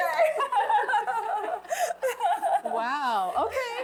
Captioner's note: laughter